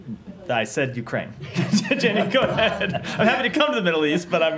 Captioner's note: laughter